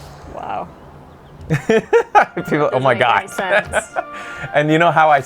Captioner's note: laughs